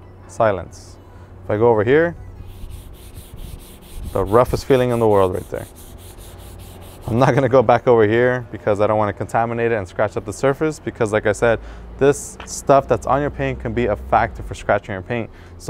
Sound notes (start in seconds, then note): 2.4 rubbing sound